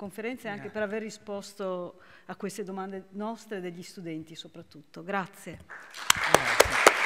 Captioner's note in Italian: Applauso